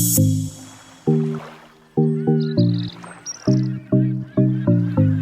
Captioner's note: water gently splashes